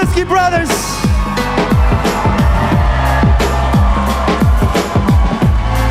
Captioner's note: applause